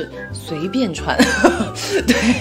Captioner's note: laughs